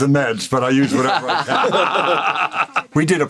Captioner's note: all laugh